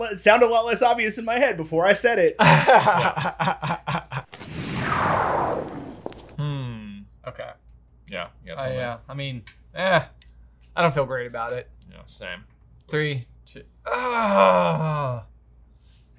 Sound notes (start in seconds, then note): 2.4 all laugh; 4.3 whooshing sound